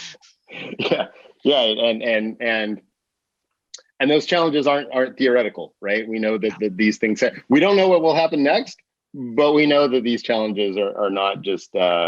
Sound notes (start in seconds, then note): 0.5 laughs